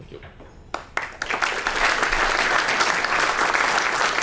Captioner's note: applause